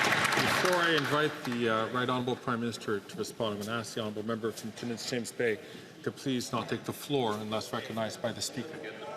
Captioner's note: some Applause